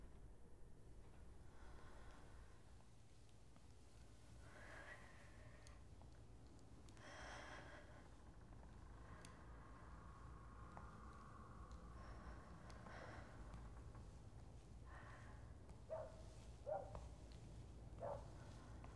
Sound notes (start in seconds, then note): 7.9 breathing; 16.4 dog barking